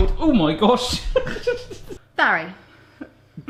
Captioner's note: laughs